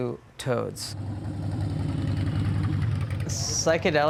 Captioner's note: motorcycle sound